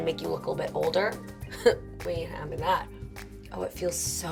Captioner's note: laughs